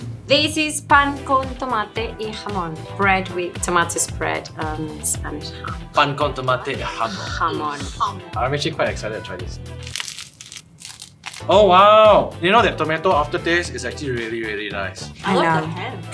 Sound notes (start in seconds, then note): 6.9 spitting sounds; 9.7 satisfying crunch